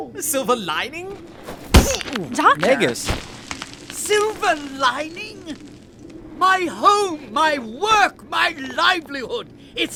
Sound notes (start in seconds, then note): 1.4 punch